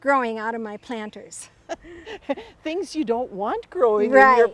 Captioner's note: laughs